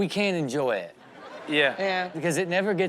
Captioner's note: audience laughs